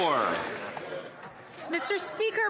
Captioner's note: some Applause